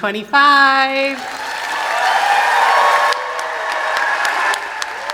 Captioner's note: applause and cheering